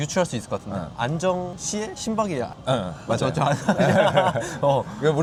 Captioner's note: laughs